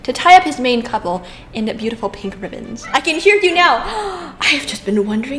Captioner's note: gasp